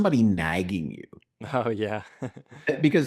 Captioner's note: laughs